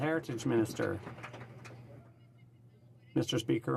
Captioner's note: some Applause